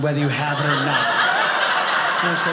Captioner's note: audience laughing